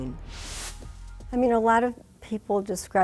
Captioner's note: graphic whooshes